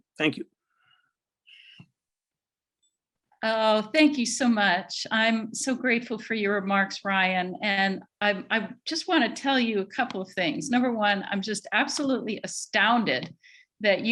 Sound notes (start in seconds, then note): none